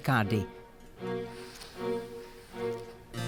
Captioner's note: feather scratching on paper